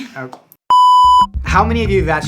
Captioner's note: screen beeping